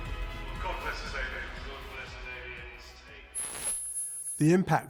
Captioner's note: chattering; static crackling